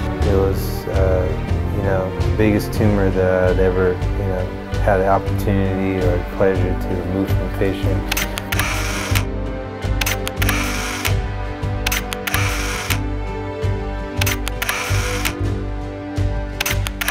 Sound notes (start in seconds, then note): 8.4 camera shuttering